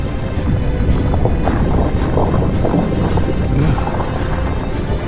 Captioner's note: water bubbling